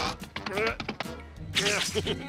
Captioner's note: straining, laughs